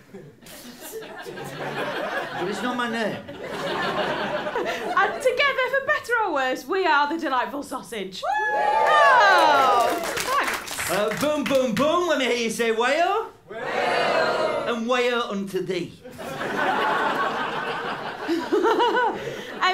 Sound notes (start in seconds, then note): 0.0 laughter; 8.4 applause and cheering; 16.0 laughter